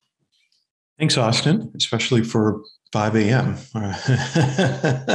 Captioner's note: laughs